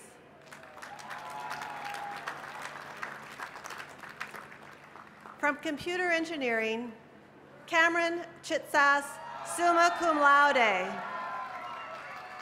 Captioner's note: cheers and applause